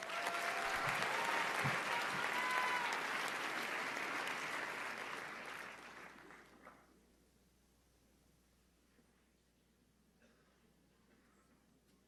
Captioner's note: applause